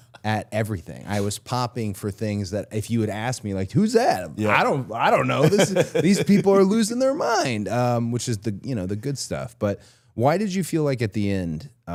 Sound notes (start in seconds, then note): 0.0 laughs; 5.1 Chad laughs